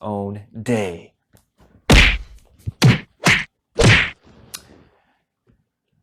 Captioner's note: punching sounds